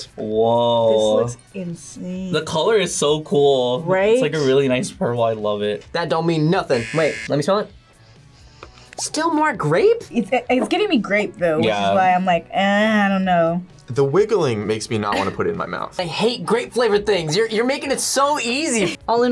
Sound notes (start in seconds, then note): 6.7 buzzer rings; 8.1 sniffs